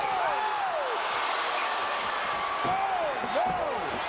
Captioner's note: crowd cheering